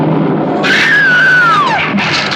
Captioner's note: screaming